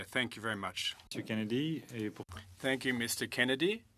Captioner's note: speaking french